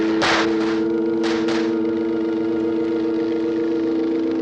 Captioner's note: gunfire